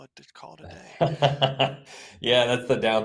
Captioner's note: laughs